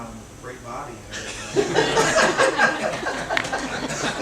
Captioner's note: laughter